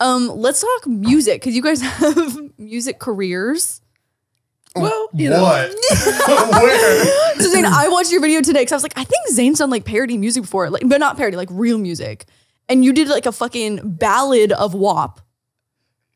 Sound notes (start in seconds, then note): 5.4 they laugh